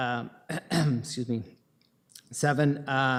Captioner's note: coughs